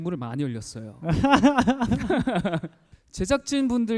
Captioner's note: hahaha